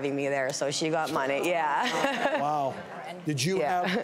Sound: laughs

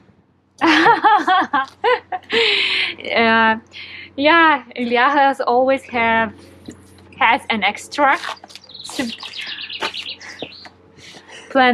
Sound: laughing

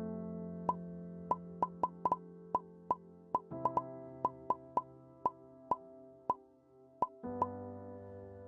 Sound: new text message sounds

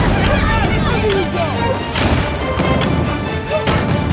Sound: dramatic music; contestants yelling

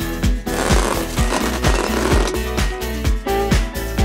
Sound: carpet groaning

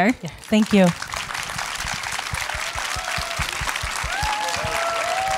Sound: audience applauding

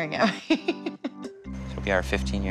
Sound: laughs

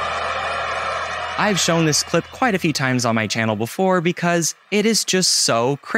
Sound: audience in shock

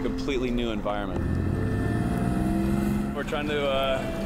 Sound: engine noise

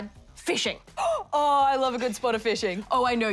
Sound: gasps

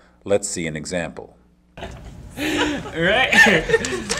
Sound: laughter; laughs

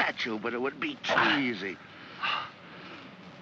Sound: Felix gasps

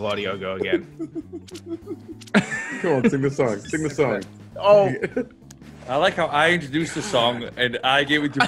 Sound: laugh

